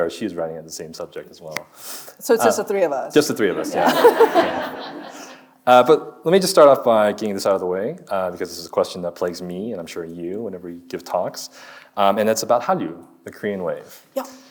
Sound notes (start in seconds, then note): 3.4 audience laughing; 3.5 chuckling